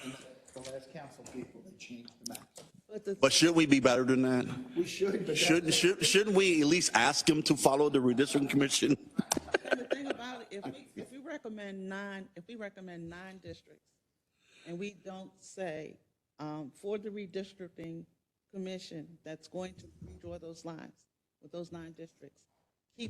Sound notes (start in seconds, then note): 9.1 laugh